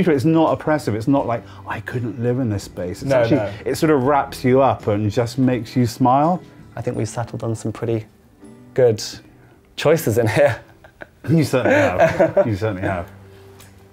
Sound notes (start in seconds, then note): 11.5 laughing